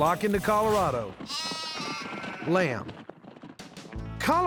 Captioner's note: baaing